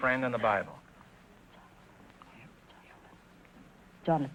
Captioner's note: whispering